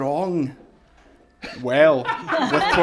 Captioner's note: laughter